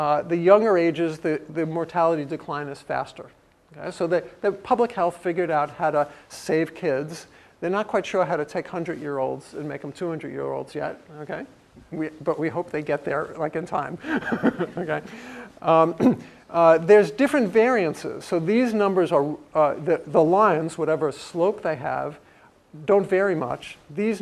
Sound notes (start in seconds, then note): 14.0 laugh; 16.0 cough